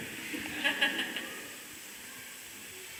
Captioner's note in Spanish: Risas